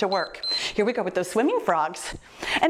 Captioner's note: timer beeps